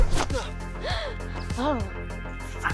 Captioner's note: gasp